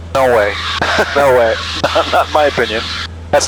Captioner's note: laughing